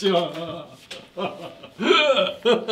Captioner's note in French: Eclate de rire